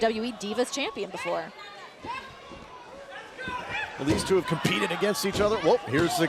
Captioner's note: crowd chatter